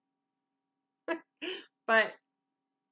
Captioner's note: laugh